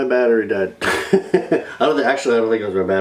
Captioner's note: laughs